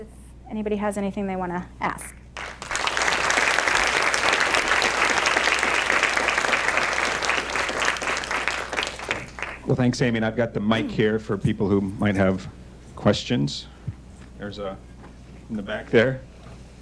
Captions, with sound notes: if anybody has anything they want to ask. (audience applauding) - Well, thanks, Amy. And I've got the mic here for people who might have questions. There's a, in the back there.